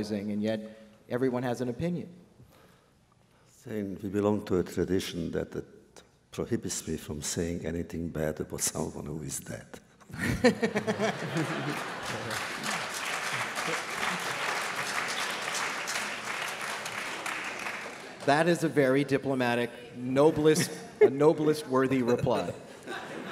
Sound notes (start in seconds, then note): 10.1 laughter; 11.2 applause